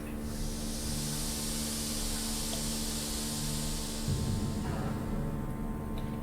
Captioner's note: silbidos de vapor; ominosa de la música